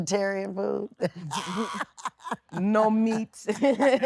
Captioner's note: laughing